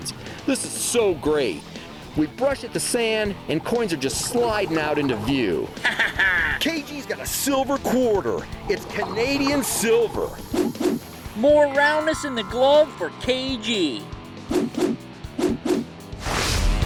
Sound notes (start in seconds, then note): 5.7 cackling; 10.8 swooshing; 14.4 swooshing; 15.8 hard rock instrumental